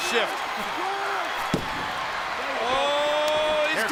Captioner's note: crowd cheering